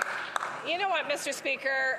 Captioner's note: some Applause